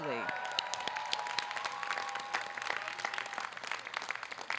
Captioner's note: audience cheering